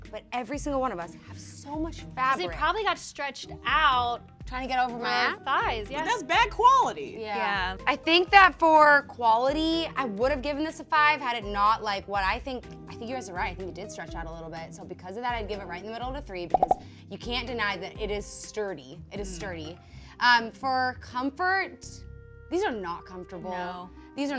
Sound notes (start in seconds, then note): 16.5 popping